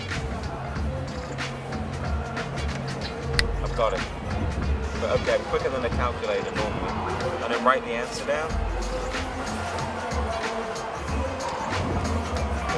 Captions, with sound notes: (fingers snapping) I've got it. Okay, I'm quicker than the calculator normally. And then write the answer down.